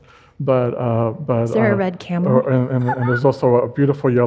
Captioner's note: laughs